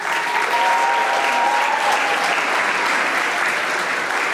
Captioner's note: audience applauding